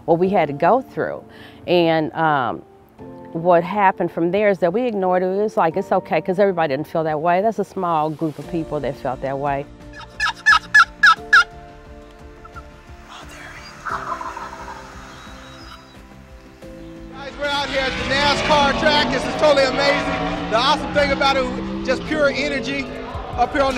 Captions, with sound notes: WHAT WE HAD TO GO THROUGH. WHAT HAPPENED FROM THERE IS THAT WE IGNORED IT. WE WERE JUST LIKE, IT'S OKAY, BECAUSE EVERYBODY DIDN'T FEEL THAT WAY. THAT'S A SMALL GROUP OF PEOPLE THAT FELT THAT WAY. ( bird calls ) >> (whispering) AH, THERE HE IS. >> GUYS, WE'RE OUT HERE AT THE NASCAR TRACK. THIS IS TOTALLY AMAZING. THE AWESOME THING ABOUT IT IS JUST THE PURE ENERGY UP HERE